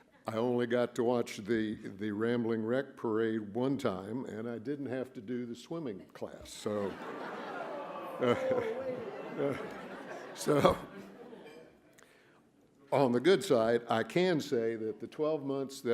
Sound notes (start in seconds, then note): 6.8 boos, laughter